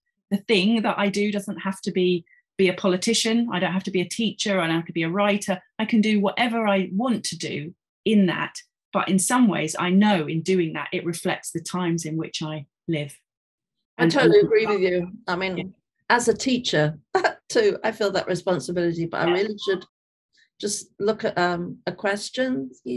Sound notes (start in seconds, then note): 17.1 chuckling